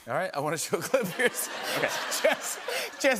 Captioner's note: laughter